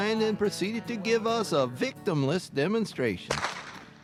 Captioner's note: whip cracks